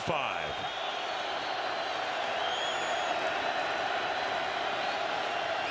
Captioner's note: cheers